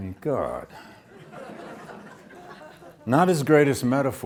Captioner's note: audience laughs